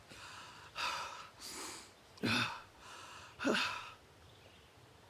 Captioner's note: Arawn breathing heavily